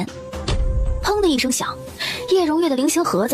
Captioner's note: bang